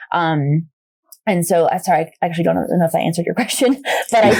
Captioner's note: laughs